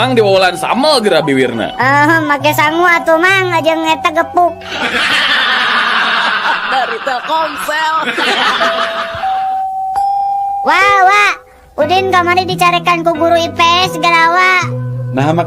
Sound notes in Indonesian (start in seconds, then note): 4.6 tertawa